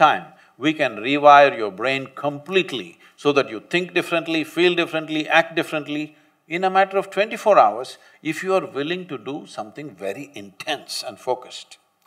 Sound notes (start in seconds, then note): none